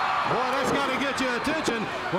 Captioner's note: crowd cheering